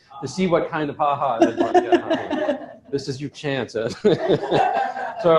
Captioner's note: laughter